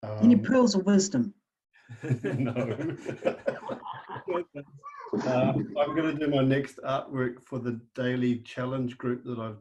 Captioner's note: laughter